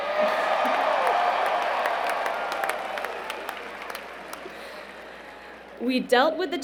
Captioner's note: cheering